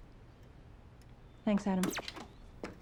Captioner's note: tv turns off